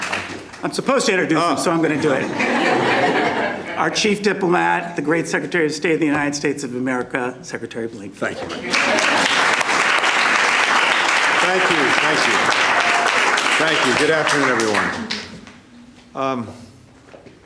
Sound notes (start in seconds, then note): 2.0 laughter; 11.0 applause